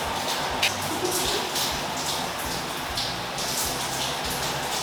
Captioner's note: creepy echoing giggle